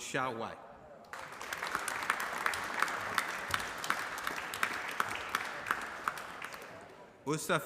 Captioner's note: applause